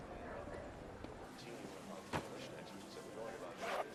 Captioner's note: newscaster talking about iraq in background